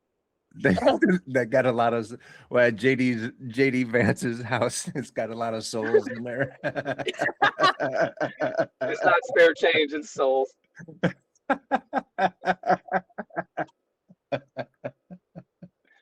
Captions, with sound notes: That got a lot of, well JD Vance's house has got a lot of souls in there. (Laughing) It's not spare change in souls. (Laughing) (Laughing)